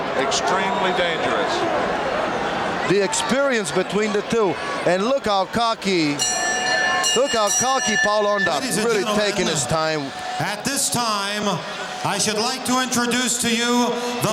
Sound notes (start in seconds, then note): 6.0 bell ringing